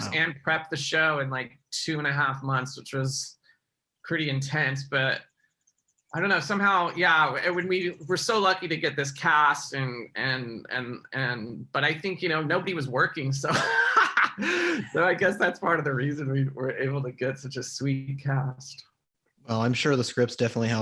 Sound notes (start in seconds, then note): 13.4 Mike laughing